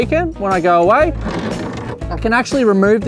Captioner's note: panel clicks